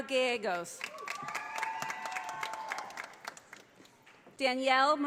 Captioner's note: audience applauding